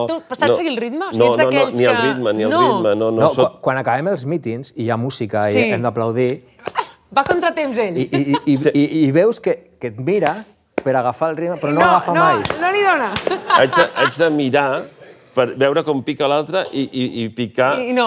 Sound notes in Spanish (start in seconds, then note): 6.4 palmas; 8.0 ríe; 13.1 palmas; 13.2 risas